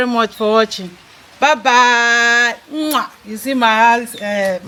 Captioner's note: kisses